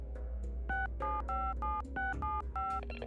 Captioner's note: telephone dialing